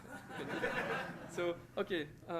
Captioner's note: laughter